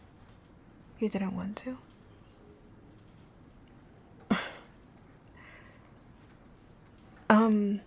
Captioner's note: laughing